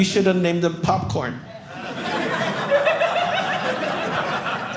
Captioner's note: audience laughing